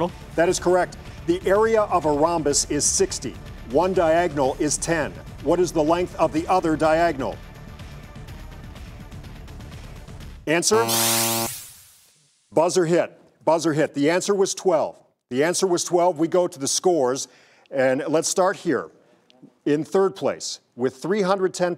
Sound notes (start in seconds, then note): 10.7 St. V and countdown both buzzing